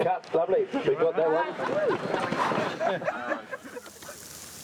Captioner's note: crowd laughing